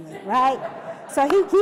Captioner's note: laughter